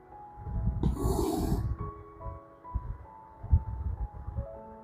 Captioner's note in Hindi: नाक से की जाने वाली आवाज़